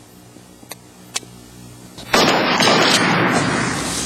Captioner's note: gunshots